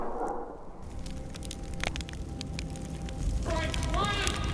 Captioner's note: fire crackling